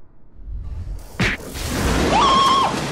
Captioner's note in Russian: шмяк; крик Марва